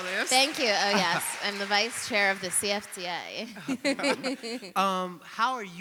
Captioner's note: chuckles